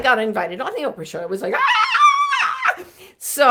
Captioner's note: squealing